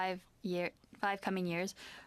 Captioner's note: speaking French